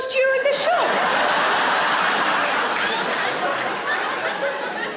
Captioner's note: audience laughing